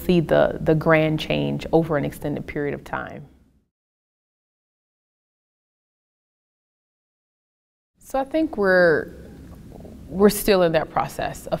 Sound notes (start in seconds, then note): 4.1 silence